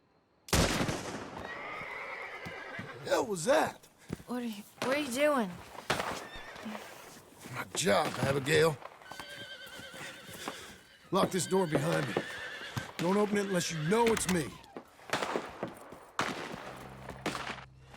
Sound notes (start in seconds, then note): 9.0 the shots continue outside